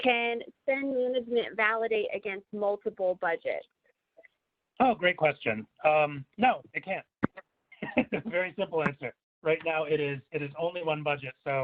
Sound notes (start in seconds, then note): 7.8 laughs